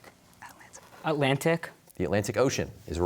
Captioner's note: whispering